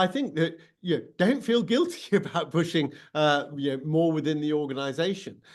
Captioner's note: chuckles